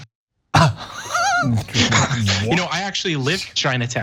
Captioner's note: laugh